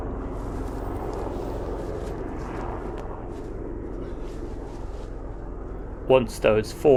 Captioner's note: faint helicopter overhead sound